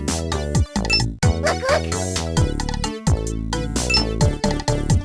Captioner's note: excited